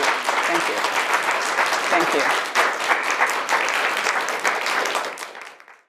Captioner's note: audience applauds